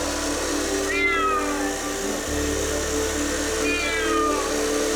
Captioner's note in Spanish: Maullidos